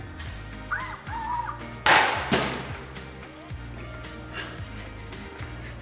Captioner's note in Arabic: صرير لعبة; صوت قنينة; يضحك